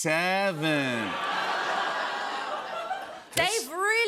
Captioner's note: laughter